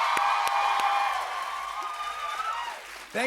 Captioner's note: cheers and applause